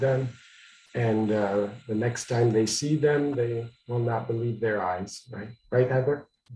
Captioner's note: away from microphone